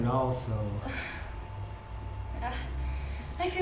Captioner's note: Melanie laughs nervousely